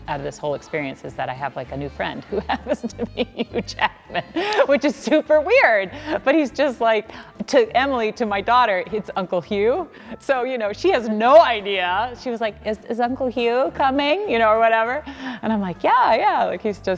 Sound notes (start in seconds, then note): 1.7 laughing